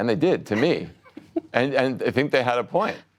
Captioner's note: laughter